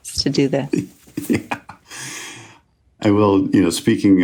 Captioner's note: laughs